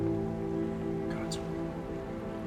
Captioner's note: whispers